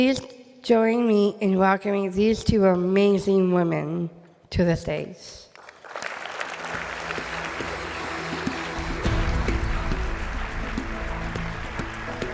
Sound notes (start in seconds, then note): 5.6 audience applauding